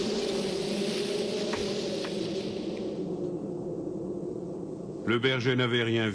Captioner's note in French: Sifflement du vent